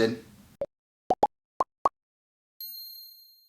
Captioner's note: popping; ding